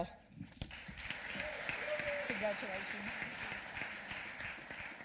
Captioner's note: applause